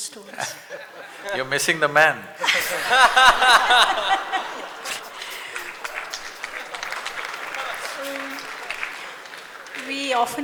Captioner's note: laughs; laughter; applause